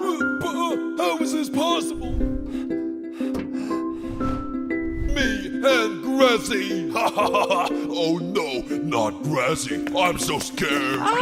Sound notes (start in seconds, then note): 6.9 laughing